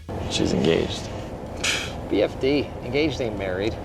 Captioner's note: phew